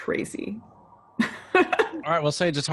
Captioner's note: laughing